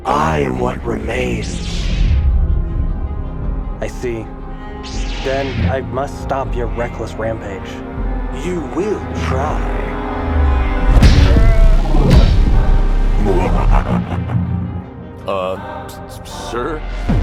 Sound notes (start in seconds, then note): 1.4 lightsaber SFX; 9.8 saber hums; 10.9 sabers clash, grunts; 13.1 ominous laughing; 13.9 saber hums